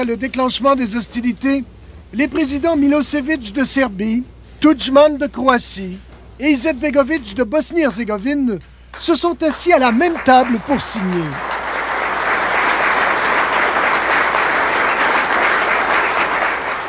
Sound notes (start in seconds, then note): 13.9 applause